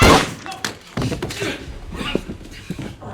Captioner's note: moaning and groaning